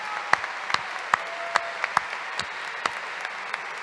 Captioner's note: applause